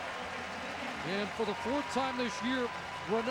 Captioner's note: applause and cheering